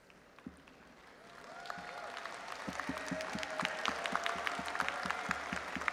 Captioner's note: audience applauding and cheering